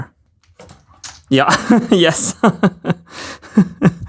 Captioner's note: laughs